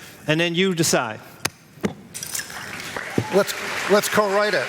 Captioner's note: applause